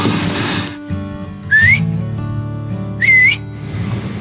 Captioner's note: whistles